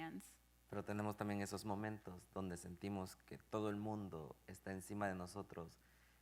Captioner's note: speaking in Spanish